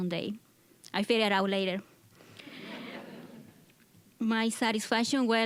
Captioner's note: audience chuckling